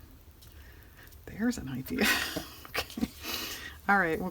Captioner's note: laughs